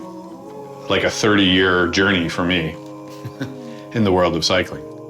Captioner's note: chuckles softly